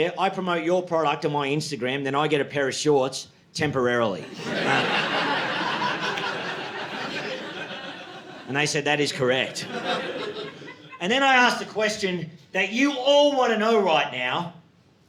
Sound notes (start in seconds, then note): 4.2 audience laughing